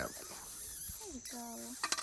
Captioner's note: bat squeaking